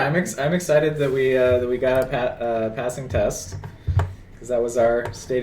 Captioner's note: none